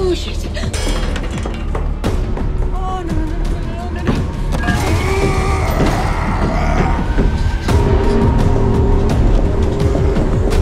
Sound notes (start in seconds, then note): 4.7 roaring; 7.4 dramatic music